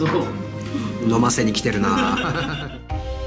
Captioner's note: laughs